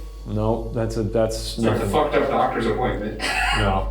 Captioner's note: chuckles